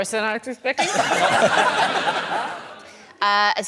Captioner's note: laughter